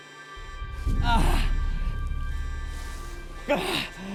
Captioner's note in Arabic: آهات